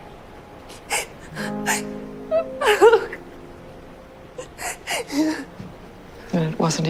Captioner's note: Serena cries offscreen